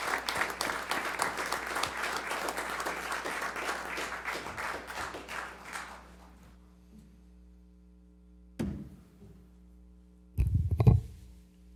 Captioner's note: applause